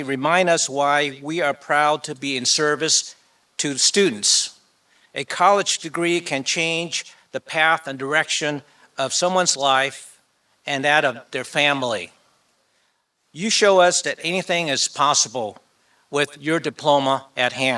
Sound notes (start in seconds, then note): none